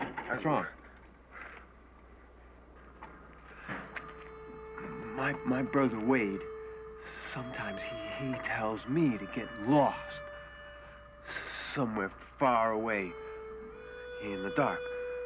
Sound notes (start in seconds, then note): none